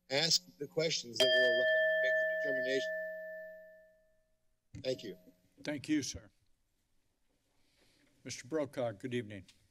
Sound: bell rings

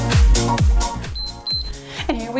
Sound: timer beeps

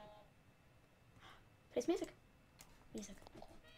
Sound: gasp

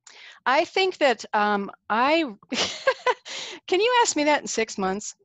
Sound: laughing

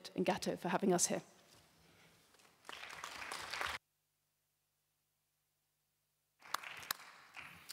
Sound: applause

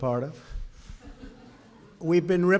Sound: laughter

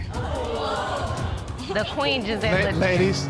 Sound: audience gasping

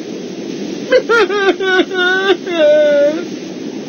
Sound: crying

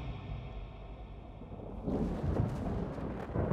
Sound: thunder rumbles

